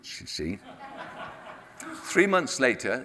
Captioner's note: audience laughs